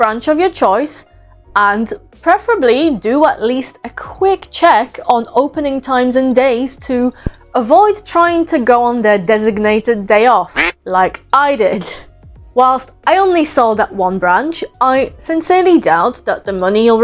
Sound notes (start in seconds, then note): 10.5 quack